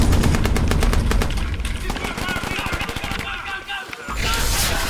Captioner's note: shouting